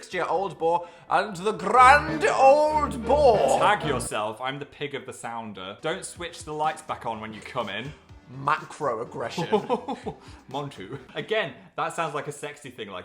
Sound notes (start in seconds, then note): 9.3 Phil laughing